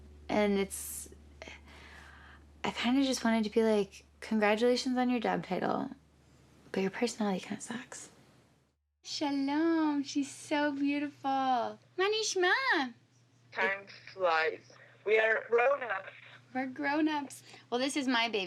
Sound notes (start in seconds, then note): 11.7 speaking Hebrew